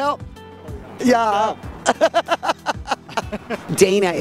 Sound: laughs

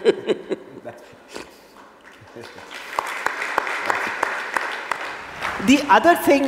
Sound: both laugh; applause

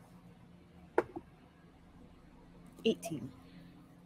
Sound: dice thumping

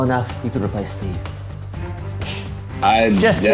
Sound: laughs

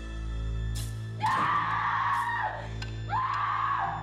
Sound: screaming

